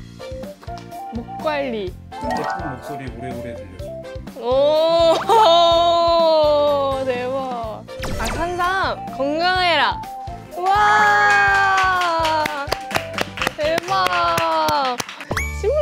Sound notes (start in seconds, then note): 5.2 impressed